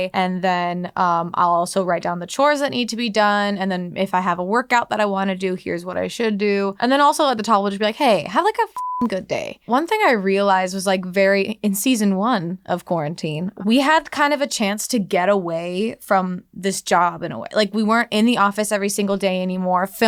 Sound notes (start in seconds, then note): 8.7 beeping